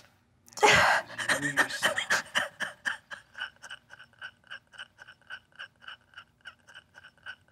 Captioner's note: crying